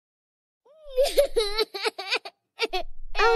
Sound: crying

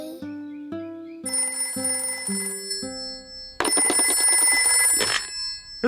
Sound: phone rings

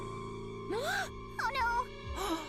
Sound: gasps

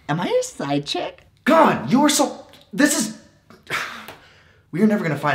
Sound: sigh

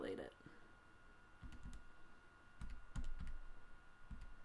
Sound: tapping calculator keys

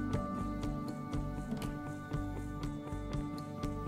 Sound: bedroom Door Opens

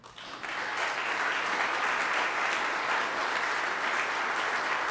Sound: audience applauding

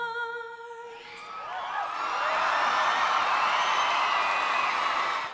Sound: crowd cheering

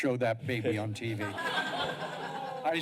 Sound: laughter

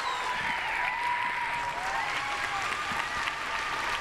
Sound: applause

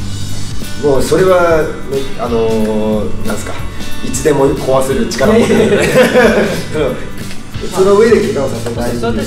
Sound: haha

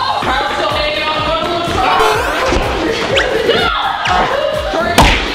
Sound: contestants chattering

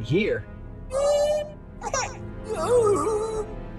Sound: whinging, crying and whining

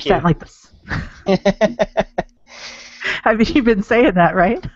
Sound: laughing

